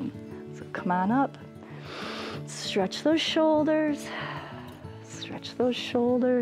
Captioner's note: inhales